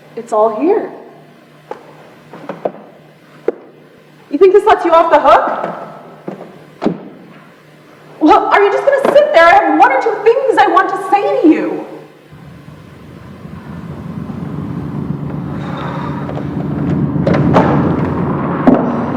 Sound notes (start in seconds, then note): 12.3 large WWII aircraft sounds; 15.3 sighs; 16.6 large WWII aircraft sounds